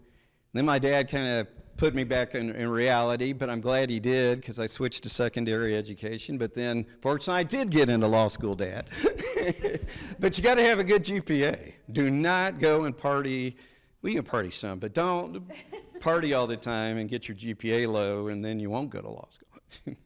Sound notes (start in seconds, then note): 8.8 laughs; 8.9 people laughing